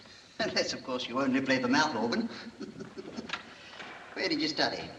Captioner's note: chuckling